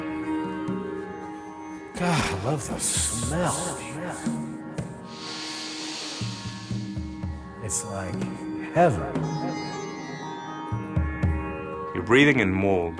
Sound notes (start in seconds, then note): 3.5 sniffs